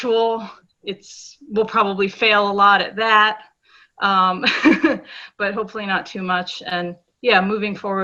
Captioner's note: laughs